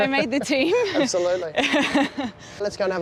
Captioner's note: chuckles; both laugh